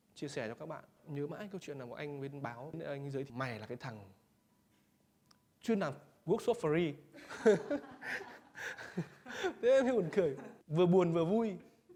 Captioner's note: laughs